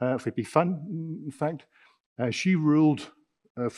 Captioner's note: speaking in foreign language